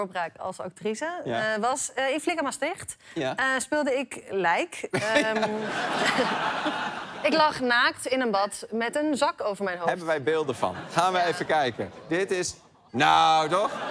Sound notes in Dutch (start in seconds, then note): 4.9 gelach